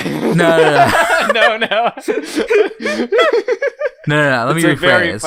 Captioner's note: laughing; laughs; both laughing